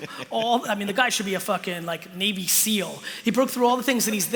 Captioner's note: laughter